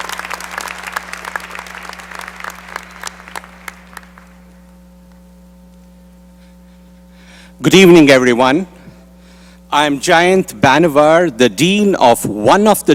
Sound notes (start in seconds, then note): 0.0 applause